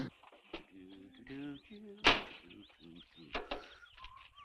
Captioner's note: Harris humming